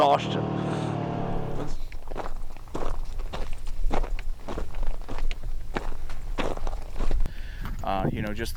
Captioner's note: ATV motors running; footsteps running